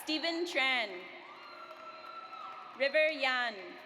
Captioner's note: audience cheers